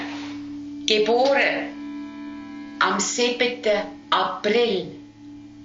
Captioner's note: speaking Swiss German